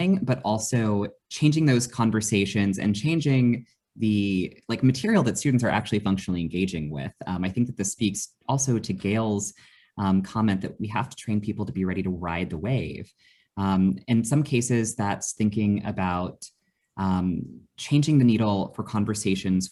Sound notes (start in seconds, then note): none